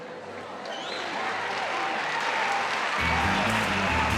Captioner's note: applause